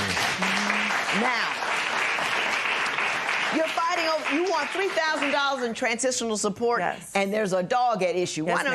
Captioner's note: applause